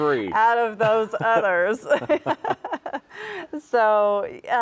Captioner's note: laughs